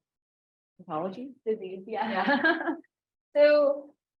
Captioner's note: interviewer laughs